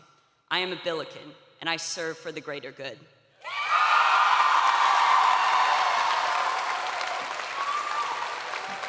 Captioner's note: cheering